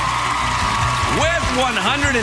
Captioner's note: audience cheering